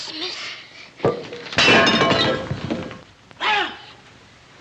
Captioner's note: shatters